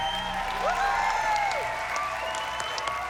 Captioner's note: whooping